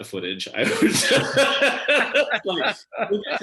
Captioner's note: all laugh